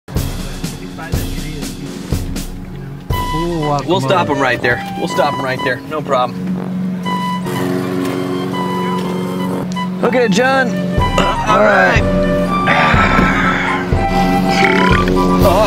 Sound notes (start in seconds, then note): 0.7 marching band music; 7.6 lawn mower roaring; 14.4 burping